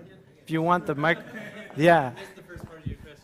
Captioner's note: laugh